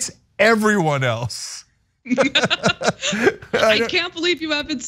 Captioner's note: laugh